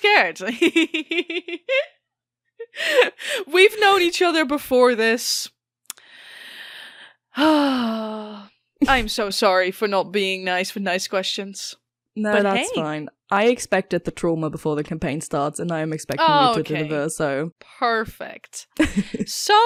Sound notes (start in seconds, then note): 1.5 laughing; 7.4 dramatic sigh. So dramatic; 18.8 laughs